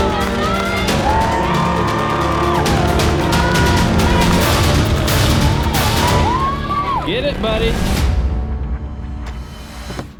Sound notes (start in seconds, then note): 0.0 crowd cheers